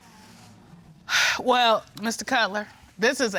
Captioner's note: Judge Dana sighs